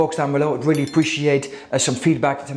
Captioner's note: bell ringing